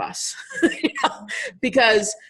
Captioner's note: laughing